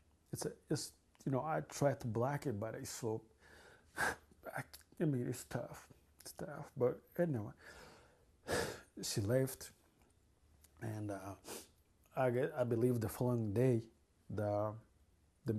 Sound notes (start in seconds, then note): 3.3 crying; 4.0 sobbing; 8.5 sighs